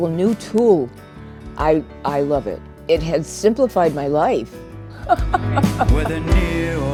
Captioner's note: laughs